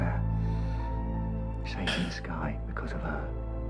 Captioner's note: emotional exhale